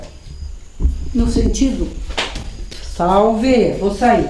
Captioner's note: sound of wood breaking